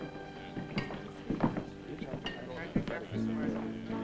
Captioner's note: chattering